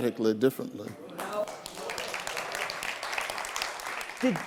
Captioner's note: audience applause